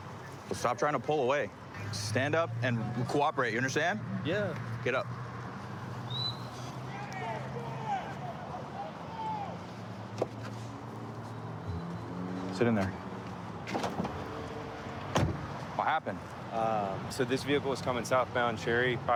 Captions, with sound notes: Well, stop trying to pull away. Stand up and cooperate. You understand? Yeah. Get up. [whistle] [indistinct shouting] [vehicles driving] Sit in there. What happened? So this vehicle was coming southbound Cherry